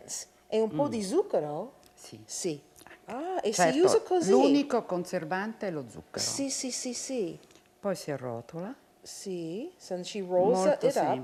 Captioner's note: speaking Italian